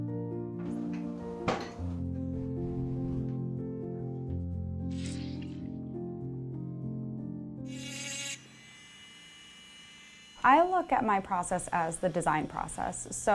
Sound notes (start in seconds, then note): 5.1 silicone squelches; 6.9 bright music continues; 7.6 filer buzzes